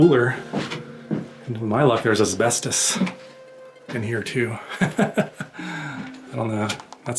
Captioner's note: laughter